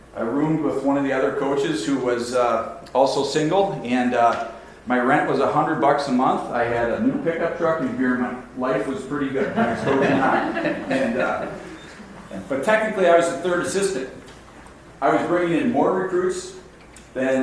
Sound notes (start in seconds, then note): 9.3 audience laughs